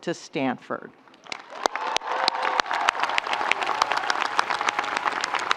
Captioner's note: audience cheering